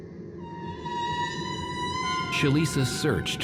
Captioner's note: screeching